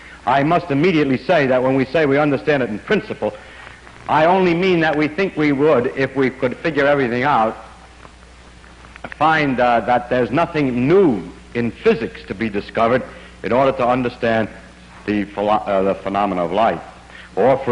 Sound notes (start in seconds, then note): none